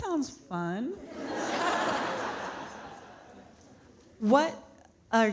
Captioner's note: audience laughing